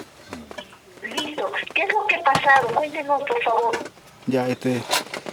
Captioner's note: voice on the phone